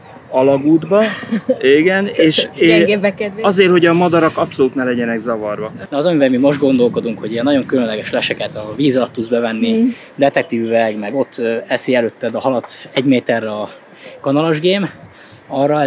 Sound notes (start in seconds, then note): 0.9 laughing